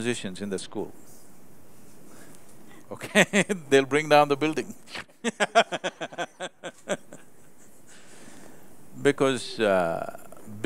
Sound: laughs

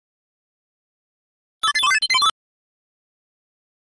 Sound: strange electronic sound

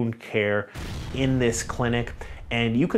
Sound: fire whooshing

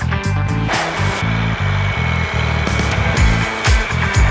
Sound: metal grinding

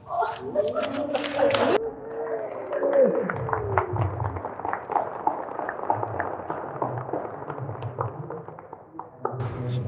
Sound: claps

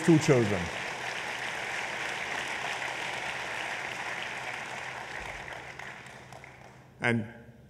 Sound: applause

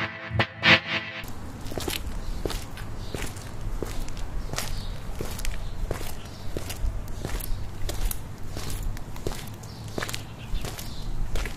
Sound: dramatic music; footsteps

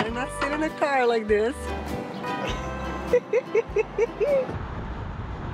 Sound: laughs

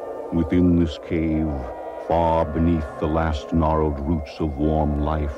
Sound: none

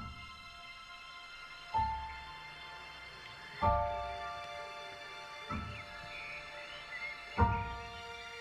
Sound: birds chirping

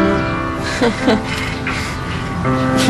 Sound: chuckles

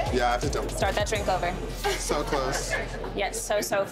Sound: laughter

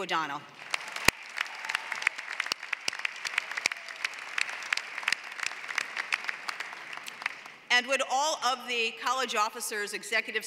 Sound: applause

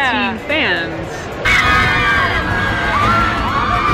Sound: screaming

